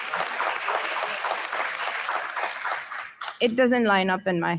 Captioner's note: audience applauding